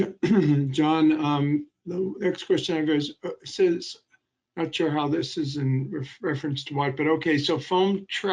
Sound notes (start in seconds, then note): 0.0 clearing throat